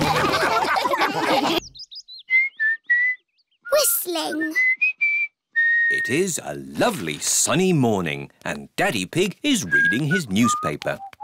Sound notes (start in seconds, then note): 0.0 all laugh; 2.2 whistling